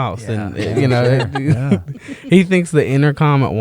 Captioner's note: laughter